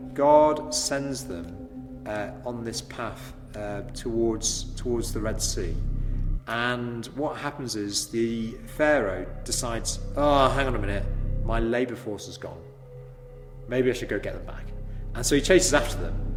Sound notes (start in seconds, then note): 12.2 dark drone sound effect plays